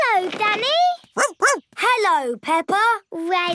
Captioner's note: snorts; barks